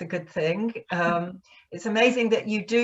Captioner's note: chuckles